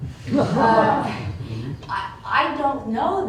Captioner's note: laughter